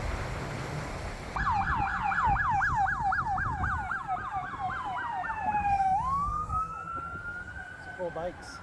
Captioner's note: siren wailing